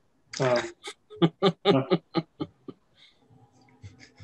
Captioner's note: laughing